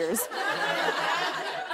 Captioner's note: laughter